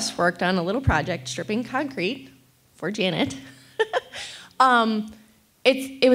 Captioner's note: laughs